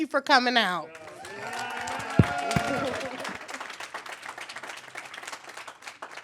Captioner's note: cheers; applause